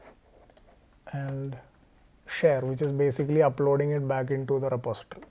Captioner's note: click